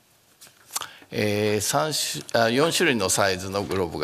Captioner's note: speaking japanese